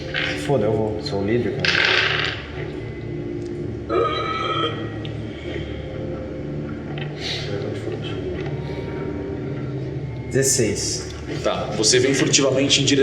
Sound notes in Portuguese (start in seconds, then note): 3.9 grunhido